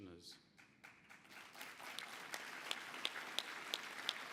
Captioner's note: applause